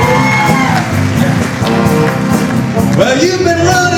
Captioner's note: cheering